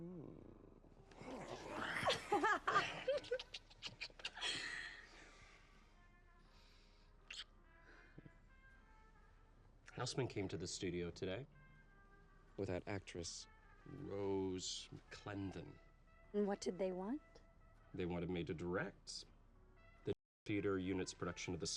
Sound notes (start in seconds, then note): 1.2 laughs